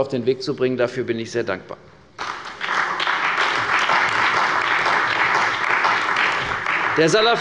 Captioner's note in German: Beifall bei der CDU und dem BÜNDNIS 90/DIE GRÜNEN